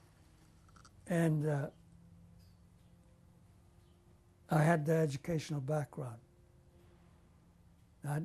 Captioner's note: pauses for 3 seconds